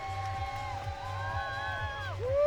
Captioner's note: cheering